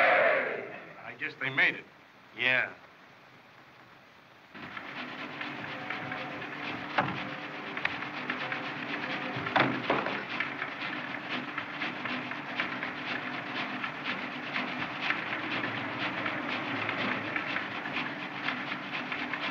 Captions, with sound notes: - I guess they made it. - Yeah. [ Engine Puffing ]